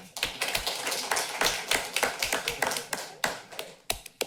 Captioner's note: applause